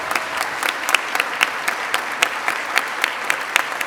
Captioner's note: applause